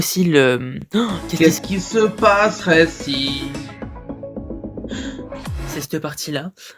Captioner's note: surprised noise